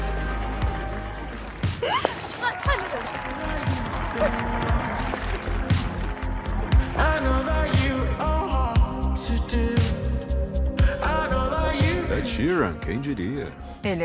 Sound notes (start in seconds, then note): 1.8 gasps